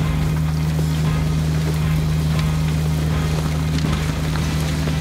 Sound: engine roaring; upbeat music

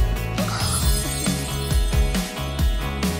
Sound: bell ringing; upbeat music

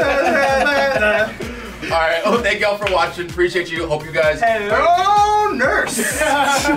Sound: laugh

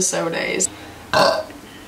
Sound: burps

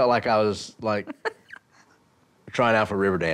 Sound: laughter

